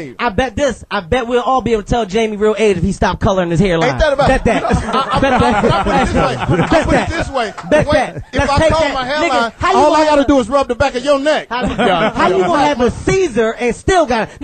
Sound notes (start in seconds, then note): 3.9 all laugh